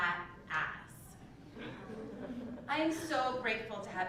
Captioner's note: laugh